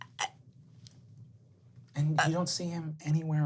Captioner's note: spluttering